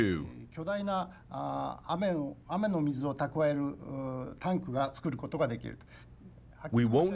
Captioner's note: speaking Japanese